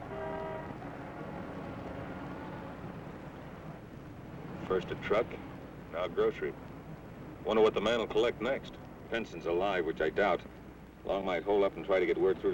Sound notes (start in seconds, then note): none